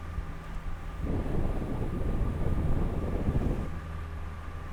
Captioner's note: engine revving; wind whooshing